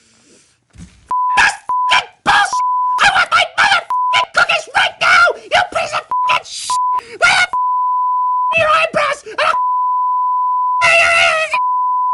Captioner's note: high Pitched Screaming